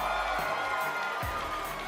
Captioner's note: cheers & applause